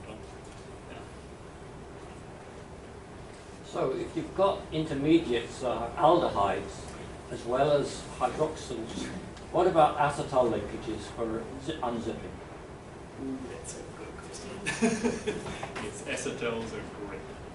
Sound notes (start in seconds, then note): 14.6 laughter